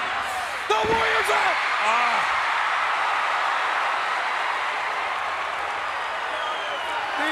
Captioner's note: applause